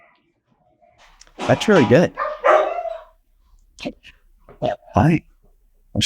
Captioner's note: dogs barking